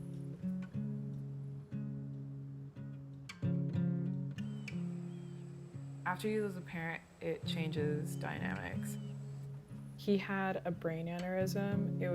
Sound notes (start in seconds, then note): 0.0 gentle music; 4.3 birds chirping